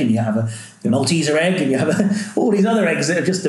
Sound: laughs

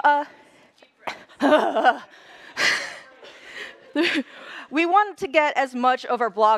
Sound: laughter

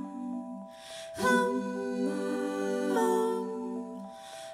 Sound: higher pitch

